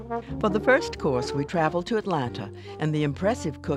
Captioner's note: voiceover